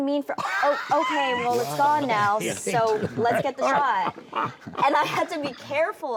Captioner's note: laughing